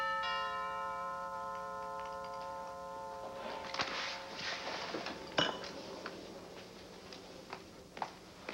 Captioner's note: doorbell rings